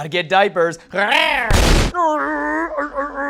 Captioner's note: explosion